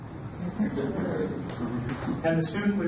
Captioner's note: audience laughs